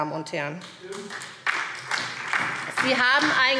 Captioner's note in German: Beifall SPD